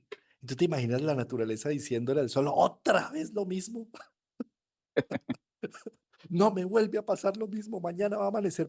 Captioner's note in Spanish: risas